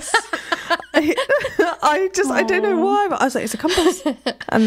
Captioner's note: laughing